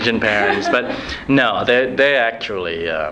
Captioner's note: laughs